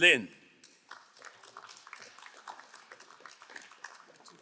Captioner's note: crowd applauding